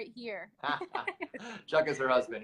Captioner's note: laughter